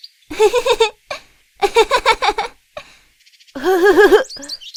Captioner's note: Acela giggling; Ezrak giggling